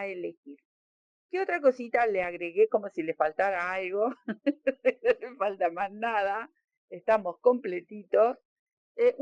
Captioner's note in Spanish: risas